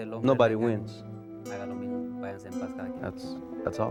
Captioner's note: speaking spanish